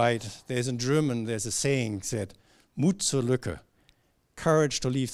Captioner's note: german